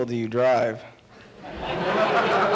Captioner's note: laughter